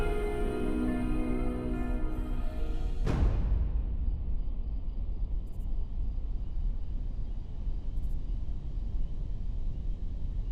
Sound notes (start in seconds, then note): 3.5 crickets chirping; 3.5 eerie music